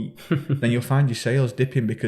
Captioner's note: host chuckling